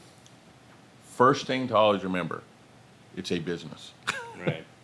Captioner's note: chuckles